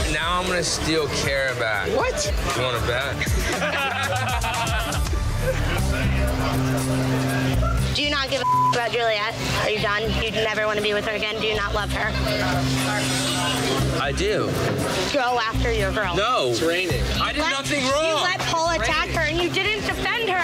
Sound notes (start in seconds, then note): 3.2 laughter; 5.0 suspenseful music